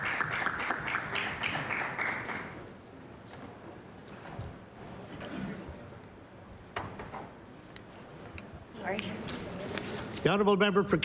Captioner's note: applause